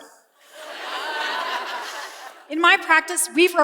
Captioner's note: laughter